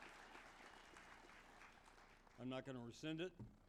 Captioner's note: applause